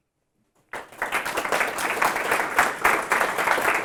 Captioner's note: applause